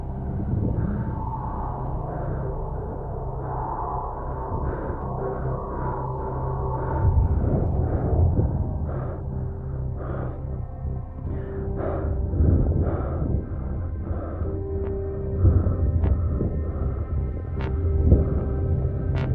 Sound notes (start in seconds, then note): 7.4 breathing hard continues; 15.7 eerie music plays